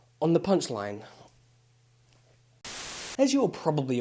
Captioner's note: Static